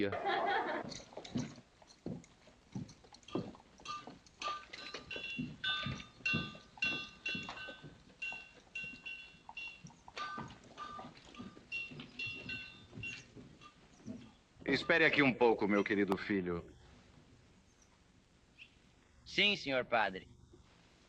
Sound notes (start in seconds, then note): 2.6 blacksmithing clanging